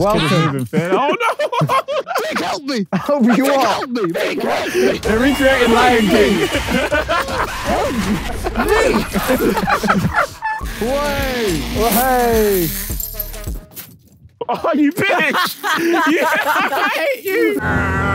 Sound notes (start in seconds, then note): 1.8 laughs; 7.9 laughs; 9.4 Tobi laughing; 14.4 Vik and Tobi laughing